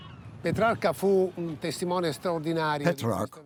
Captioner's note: speaking in foreign language